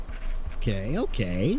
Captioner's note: scribbling